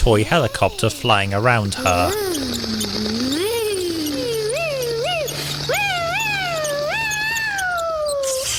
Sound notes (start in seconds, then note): 2.4 whoops excitedly